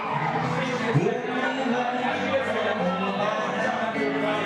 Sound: bar noise and music

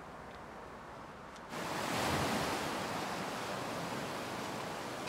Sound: waves crash

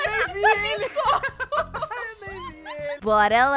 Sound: laughter; laughing

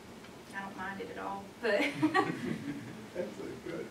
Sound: laughter

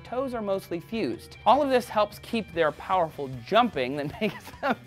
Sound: laughs

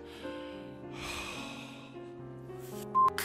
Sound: sighs

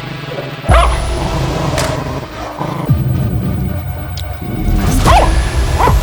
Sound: barking sounds and music; growling sounds and music; barking sounds and music

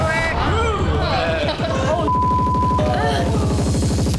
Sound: beeping

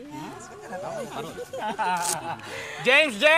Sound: giggles; chuckles

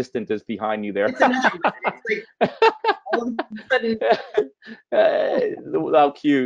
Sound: laughing; voice muffled

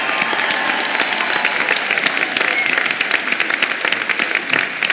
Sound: applause

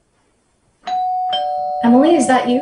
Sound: door bell ringing

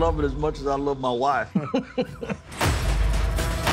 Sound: laughs

